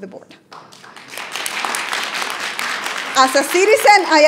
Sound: audience applauding

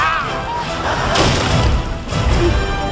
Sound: loud crash

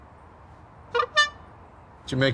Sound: horn honk

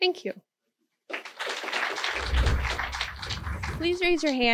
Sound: clapping

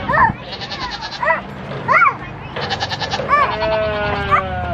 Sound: goats bleat

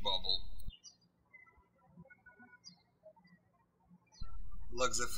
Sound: birds chirping

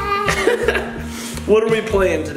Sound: laughter

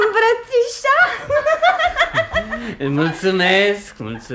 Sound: the woman laughs

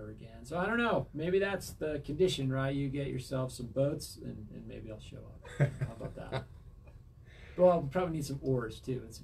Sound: chuckles

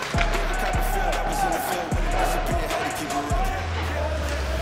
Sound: coach yells

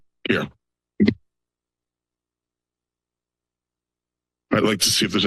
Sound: silence

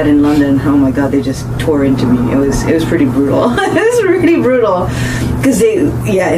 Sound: laughs

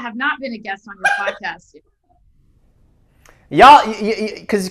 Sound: laughs

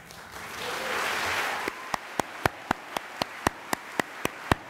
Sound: applause

